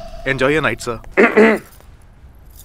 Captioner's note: Clears throat